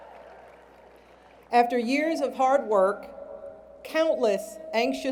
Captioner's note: cheering